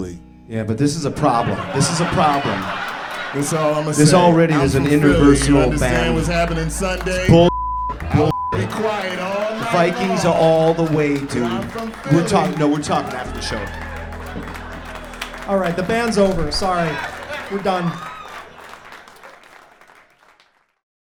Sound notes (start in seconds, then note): 18.1 laughter